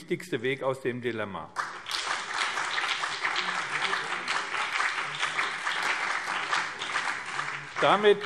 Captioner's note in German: Beifall BÜNDNIS 90/DIE GRÜNEN und CDU